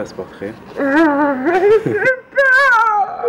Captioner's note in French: rires